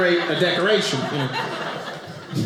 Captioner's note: audience laughing